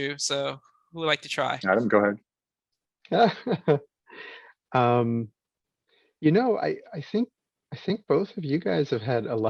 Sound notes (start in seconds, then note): 3.1 laughs